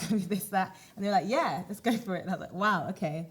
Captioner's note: none